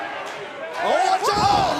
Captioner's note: fans chanting